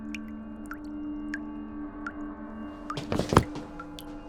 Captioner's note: faucet dripping